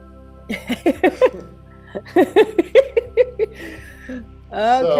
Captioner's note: client laughing